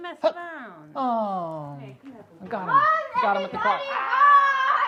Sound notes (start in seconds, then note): 2.7 child yelling